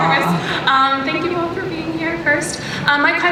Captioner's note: voiceover